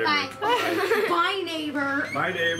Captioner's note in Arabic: يضحك